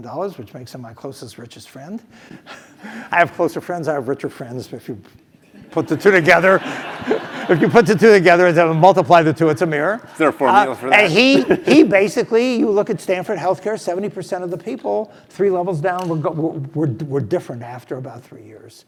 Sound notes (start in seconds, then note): 5.8 laugh